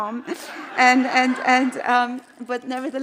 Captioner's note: audience laughing